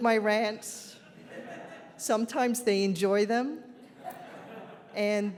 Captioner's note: audience laughs